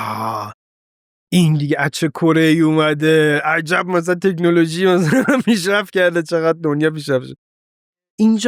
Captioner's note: laughs